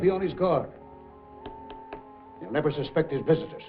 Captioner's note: taps table